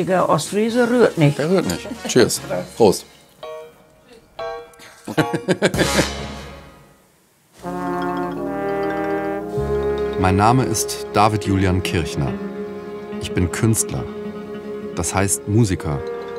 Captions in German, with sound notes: Ein richtiger Ostfriese rührt nicht. Cheers. Prost! (Gelächter) (Ruhige Musik) Mein Name ist David Julian Kirchner. Ich bin Künstler, das heißt, Musiker.